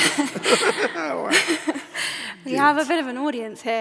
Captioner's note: both laugh